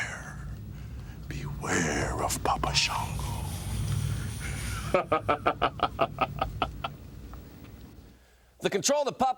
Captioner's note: laugh